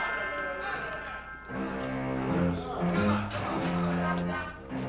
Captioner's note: sergeant Continues Yelling